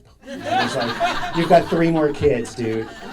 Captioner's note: audience laughing